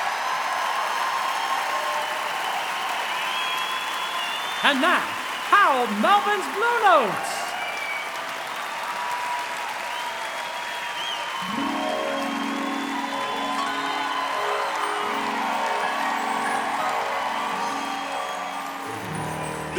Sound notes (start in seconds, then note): 2.3 cheering; 4.6 applause; 12.8 cheering; 16.3 cheering